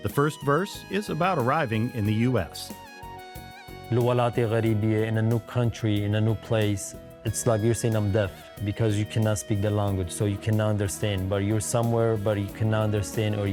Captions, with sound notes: The first verse is about arriving in the U.S.. (gentle music) (speaking foreign language) - In a new country, in a new place. It's like you're saying, I'm deaf because you cannot speak the language, so you cannot understand. But you're somewhere, but you cannot understand or